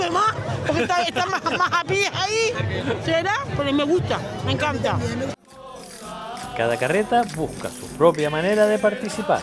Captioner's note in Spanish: risas